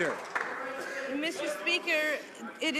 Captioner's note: some Applause